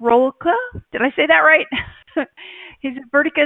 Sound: laughs

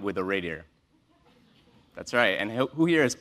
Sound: laugh

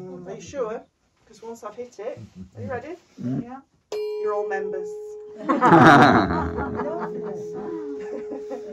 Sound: laughter

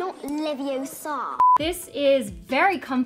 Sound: beeping

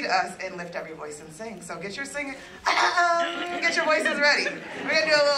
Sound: cough

